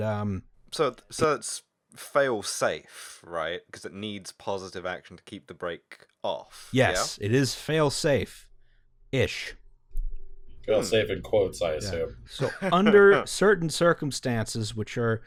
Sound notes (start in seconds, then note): 12.4 nervous laughter